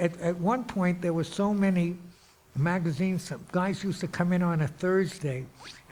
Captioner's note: none